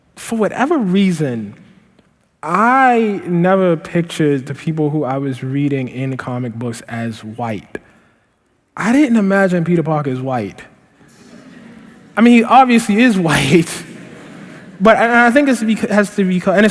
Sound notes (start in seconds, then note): 11.0 laughter; 13.6 laughter